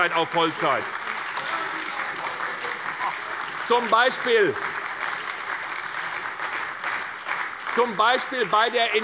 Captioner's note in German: Beifall bei der SPD